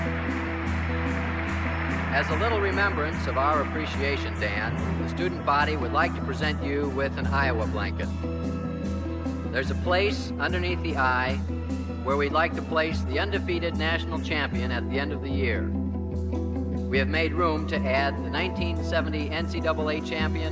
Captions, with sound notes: [crowd applauses] [announcer's voice] - As a little remembrance of our... appreciation, Dan, the student body would like to present you with an Iowa blanket. There's a place underneath the "I"... where we'd like to place the undefeated national champion at the end of the year. We have made room to add the 1970 NCAA Champion...